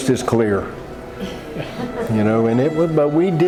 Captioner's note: group chuckling